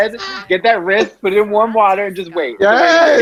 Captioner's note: laughs